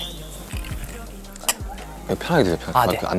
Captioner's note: cheers